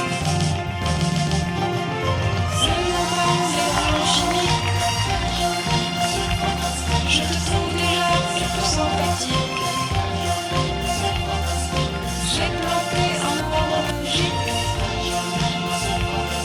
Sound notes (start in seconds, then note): 4.0 applause